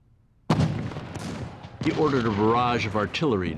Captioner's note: artillery fire